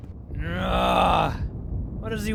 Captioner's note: groans